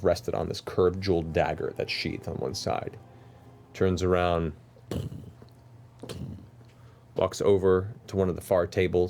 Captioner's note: thudding steps